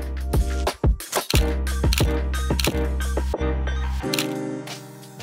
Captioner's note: camera shutter clicking